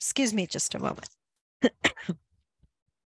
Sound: coughs

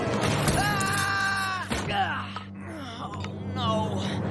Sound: screaming

